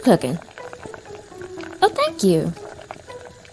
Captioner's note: pot bubbles; soft music